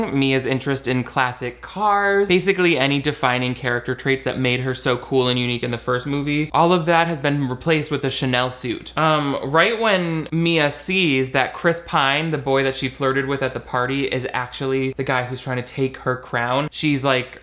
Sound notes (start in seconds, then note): none